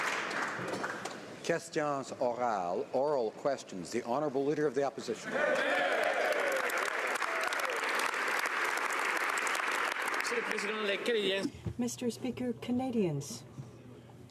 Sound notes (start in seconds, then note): 0.0 applause; 4.6 speaking French; 8.3 some Applause